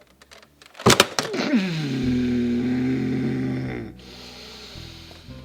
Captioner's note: detective groaning